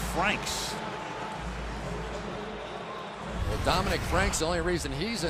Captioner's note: pa announcement